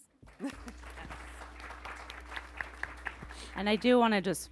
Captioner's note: attendees applauding